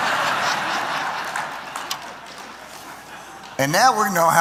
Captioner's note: laughter; applause